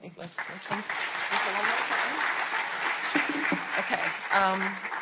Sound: audience applauding

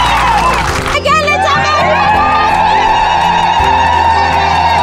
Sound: crowd cheering

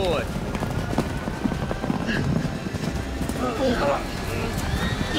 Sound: galloping horses; horse whinnies

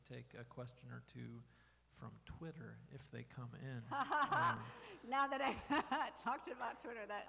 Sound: laughing

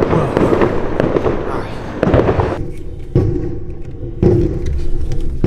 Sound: explosions booming

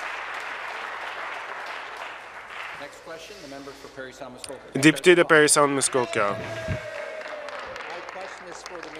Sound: some Applause

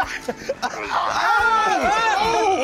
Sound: grunting

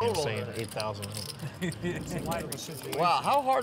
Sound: laughs

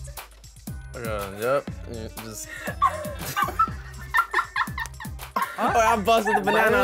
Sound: laughs

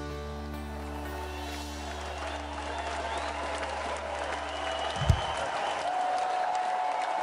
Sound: audience cheers and applauds

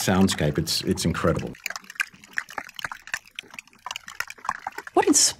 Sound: sound of icebergs melting

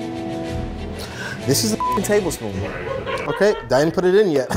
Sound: suspenseful music; beep

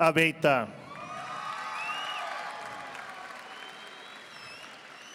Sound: audience applauding

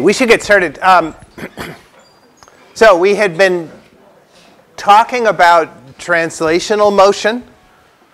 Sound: cough

